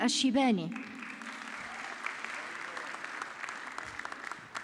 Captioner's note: audience clapping